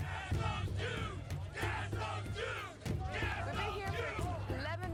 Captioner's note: protestors chanting